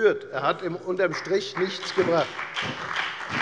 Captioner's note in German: Beifall bei der FDP und der SPD